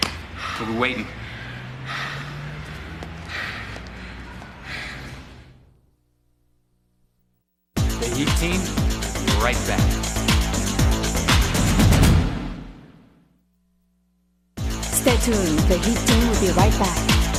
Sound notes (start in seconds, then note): 1.5 panting